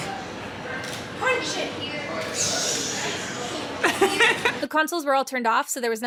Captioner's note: laughing